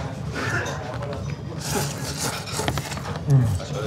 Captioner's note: slurps